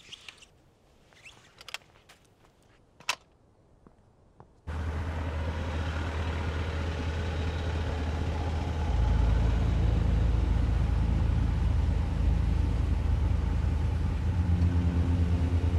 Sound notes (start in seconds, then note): 2.5 kickstand clacks; 4.3 engine rumbling; 8.4 suspenseful music